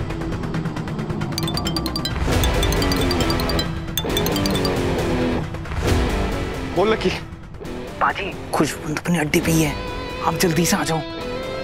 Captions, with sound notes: [mobile phone ringing] Yes, Lucky. Khushwant is at his den. You come quickly.